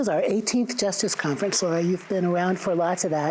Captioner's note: audience applauding